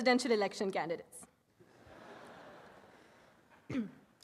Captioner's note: audience laughs